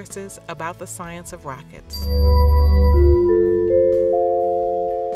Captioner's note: chime sound